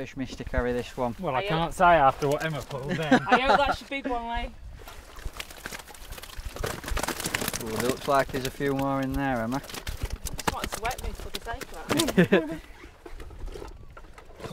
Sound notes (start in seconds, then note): 5.0 fish flapping; 11.9 laughs